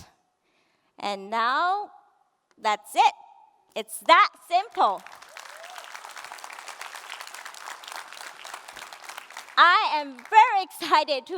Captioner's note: applause